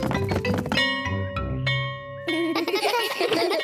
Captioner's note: bell ringing; kids laughing